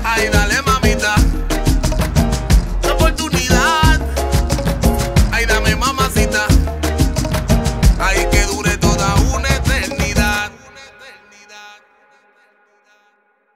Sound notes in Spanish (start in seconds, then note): 12.0 silencio